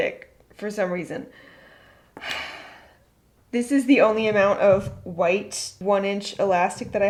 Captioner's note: sighs